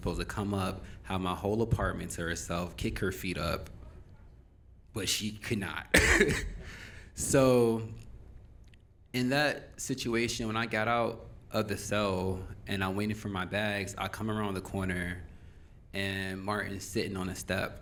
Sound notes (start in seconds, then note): 7.1 laughs